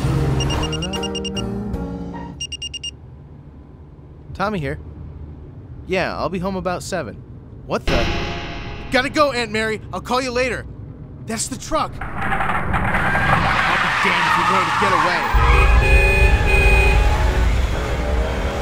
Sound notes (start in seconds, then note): 0.1 cell phone ringing; 12.7 tires screeching; 14.6 honking